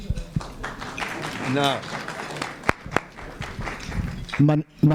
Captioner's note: applause